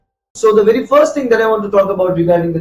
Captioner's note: Arabic; Vietnamese